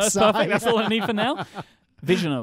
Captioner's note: both laugh